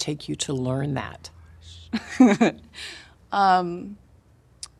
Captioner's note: laughing